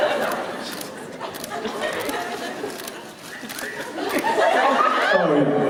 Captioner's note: more muted whispering